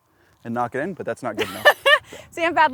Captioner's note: laughs